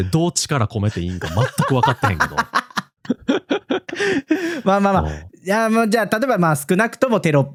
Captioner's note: laughs